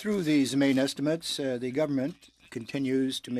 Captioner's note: speaking French